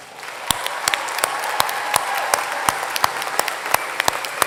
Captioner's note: applause